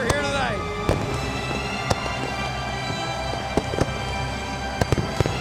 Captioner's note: fireworks popping